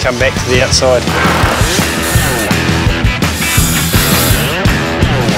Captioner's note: power tools whirring